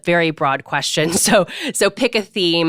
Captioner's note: laughs